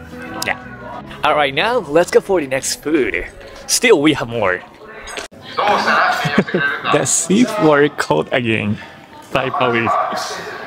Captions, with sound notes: Yeah. All right, now, let's go for the next food. Still, we have more. [POLICE SPEAKS IN JAPANESE] The thief was caught again by police.